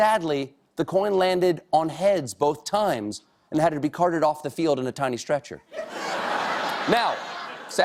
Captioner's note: laughter